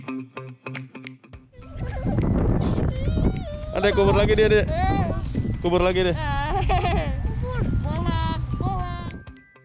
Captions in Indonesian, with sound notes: (Ketawa) + Adek, kubur lagi dia, Dek! - Hee * Apa? + Kubur lagi dia! - Yaaa.. Hehehe.. + Kubur.. - Bolong.. Bolong..